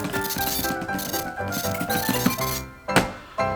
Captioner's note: digital buzzing and zapping; keys clacking